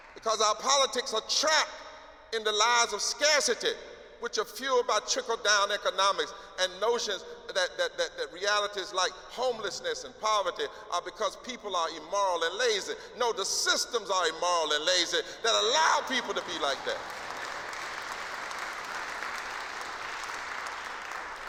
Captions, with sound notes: because our politics are trapped in the lies of scarcity, which are fueled by trickle-down economics and notions that reality is like homelessness and poverty are because people are immoral and lazy. No, the systems are immoral and lazy that allow people to be like that. [APPLAUSE]